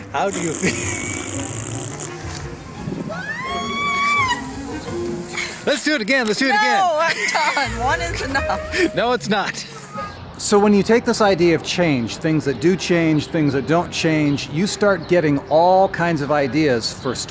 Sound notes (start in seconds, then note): 0.1 blows raspberries; 3.1 screaming